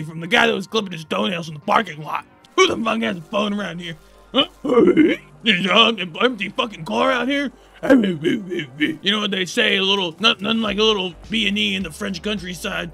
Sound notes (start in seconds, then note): 4.4 Bim Allen grunt; 7.8 Bim Allen groan